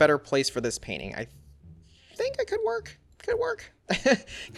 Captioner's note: laughs